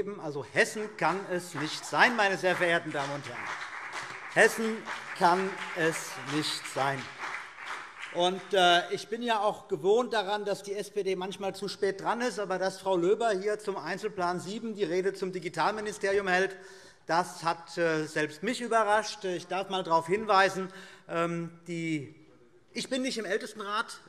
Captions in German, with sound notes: - Hessen kann es nicht sein. [Beifall CDU und BÜNDNIS 90/DIE GRÜNEN] Ich bin daran gewöhnt, dass die SPD manchmal zu spät dran ist. Aber dass Frau Löber hier unter dem Einzelplan 07 die Rede zum Digitalministerium hält, hat selbst mich überrascht. Ich darf einmal darauf hinweisen - ich bin nicht im Ältestenrat,